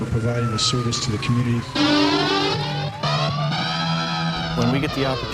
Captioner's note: sirens wailing; exciting music